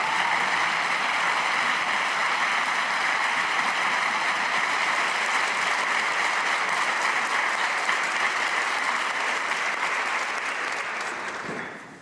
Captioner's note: cheers and applause